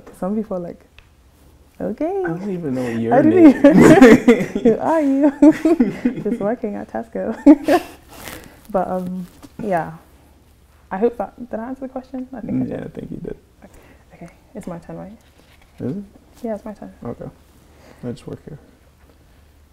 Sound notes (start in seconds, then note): 2.8 laughs; 7.0 giggles